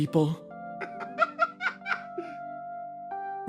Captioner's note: laugh